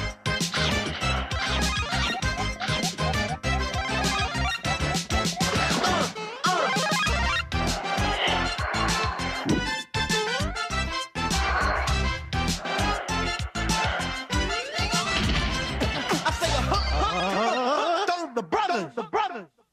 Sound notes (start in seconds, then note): 5.9 uh!, Uh!